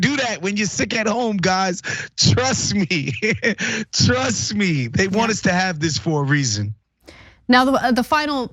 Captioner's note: laugh